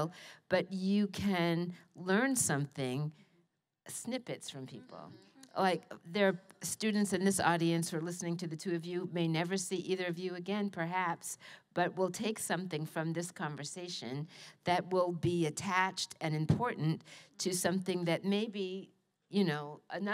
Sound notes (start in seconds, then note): none